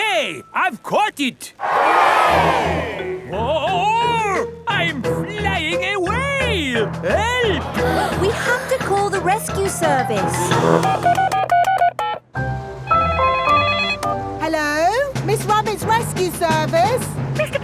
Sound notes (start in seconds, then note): 1.6 crowd cheers; 10.3 beeping; 13.1 phone ringing